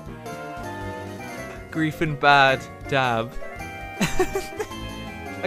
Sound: cry-laugh

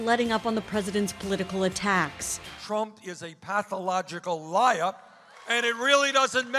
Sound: bernie crowd

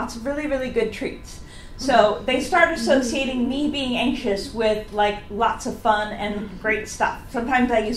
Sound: audience laughs

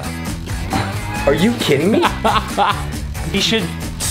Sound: laughter

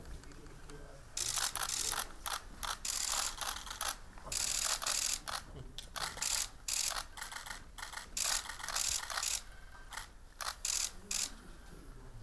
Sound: camera shutters

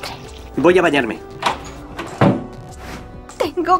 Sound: door sound

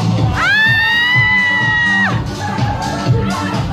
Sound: screeching

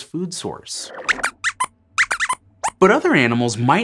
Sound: squeaks squeaks

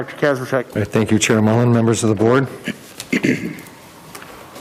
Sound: coughs

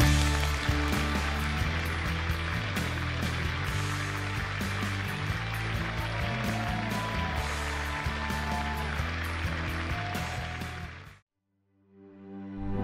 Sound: audience applauding

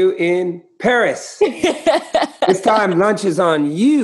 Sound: laughter

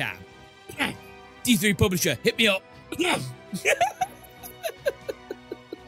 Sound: cough

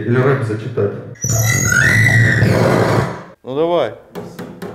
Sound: imitates whale song

